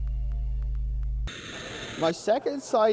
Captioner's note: soft music; computer static beeping